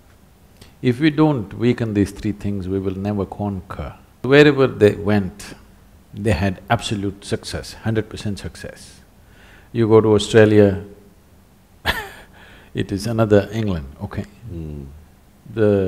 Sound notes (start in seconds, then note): 11.8 laughs